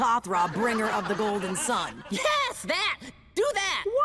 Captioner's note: mummies laughing